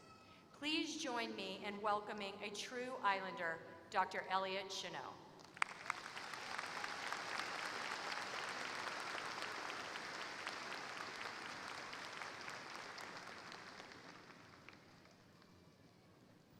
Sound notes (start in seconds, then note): 5.4 applause